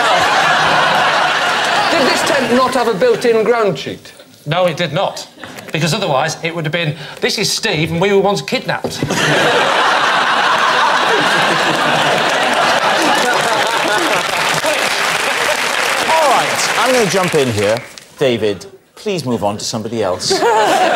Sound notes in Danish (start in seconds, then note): 11.7 Klapsalve